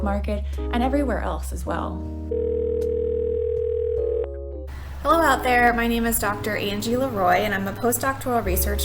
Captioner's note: phone ringing